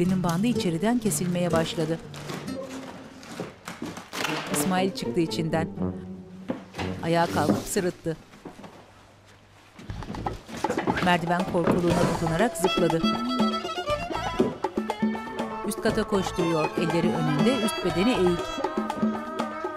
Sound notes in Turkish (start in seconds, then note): 0.1 Kutu kesme sesi; 10.4 Ayak sesi; 12.6 Müzik - Hareketli